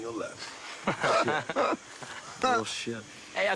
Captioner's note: laughing